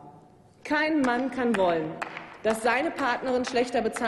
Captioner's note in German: Applaus